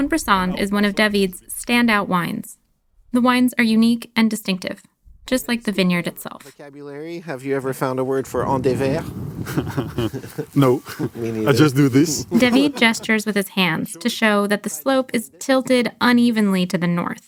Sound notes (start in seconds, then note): 8.8 chuckling; 12.3 laughing